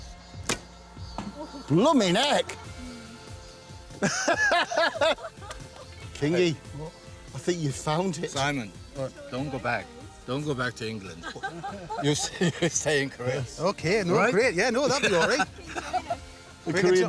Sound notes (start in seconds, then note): 3.9 laughs; 11.0 laughter